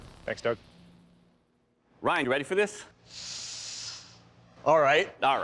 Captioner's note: inhales sharply